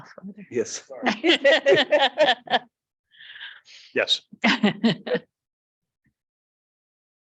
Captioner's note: speaker laughing